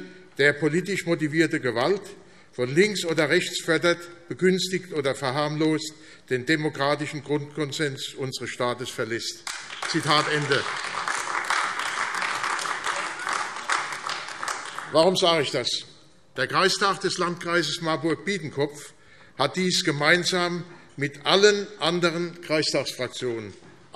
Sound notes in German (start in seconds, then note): 9.4 Beifall AfD